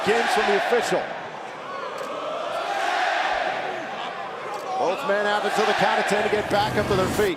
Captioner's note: crowd cheering